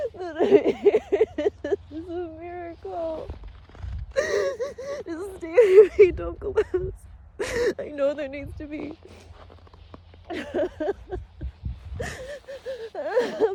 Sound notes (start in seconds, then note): 4.1 sobs; 9.2 sniffles; 9.2 snow crunches underfoot; 10.2 sobs viscerally